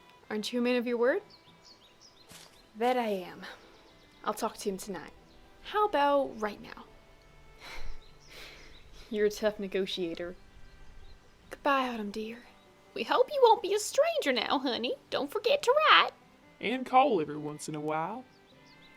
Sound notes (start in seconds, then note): 7.6 little laugh